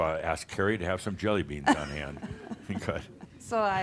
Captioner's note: they chuckles